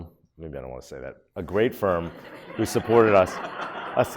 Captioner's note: audience laughs